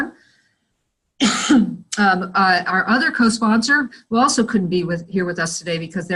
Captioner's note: cough